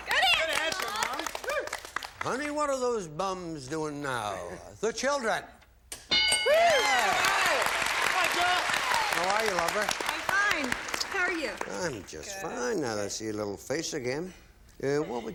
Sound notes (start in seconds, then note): 6.0 bell; 6.6 applause